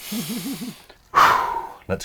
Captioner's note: laughs